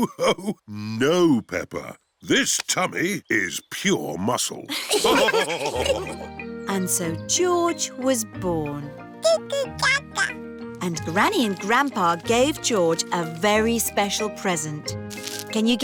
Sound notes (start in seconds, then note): 0.1 laughs; 4.7 all laughing